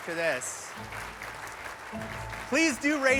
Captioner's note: applause